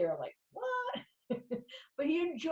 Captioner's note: laughs